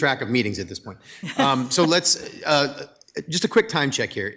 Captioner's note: members laughing